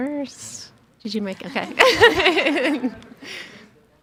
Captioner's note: laughing